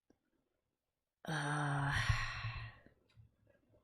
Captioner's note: heavy sigh